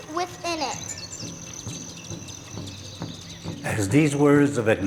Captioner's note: birds chirping